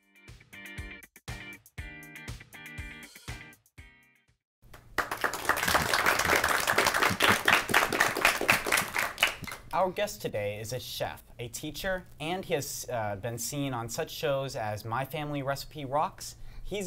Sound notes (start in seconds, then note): 0.1 upbeat guitar music; 4.8 audience applause